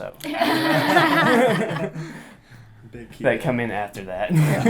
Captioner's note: all laugh